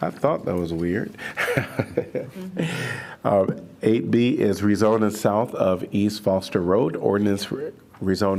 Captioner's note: laughter